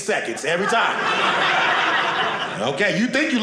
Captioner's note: audience laughing